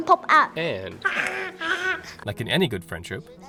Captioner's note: roaring